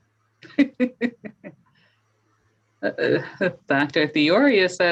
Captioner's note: laughing